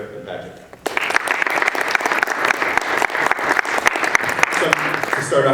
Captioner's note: people clapping